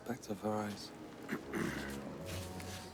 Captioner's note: clears throat